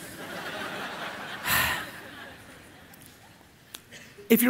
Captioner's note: laughing